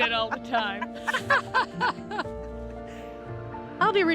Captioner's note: both laugh